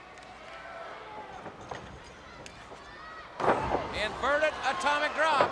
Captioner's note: crowd chatter